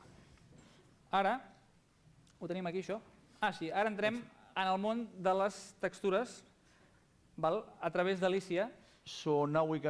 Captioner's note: non-english speech